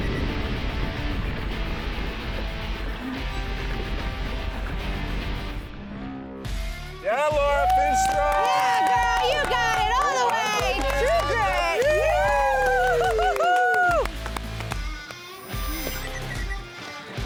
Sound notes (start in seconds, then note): 12.3 cheers; 13.4 upbeat music